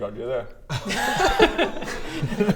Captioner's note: laughter sounds